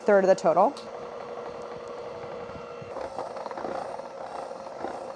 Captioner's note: mixer whirring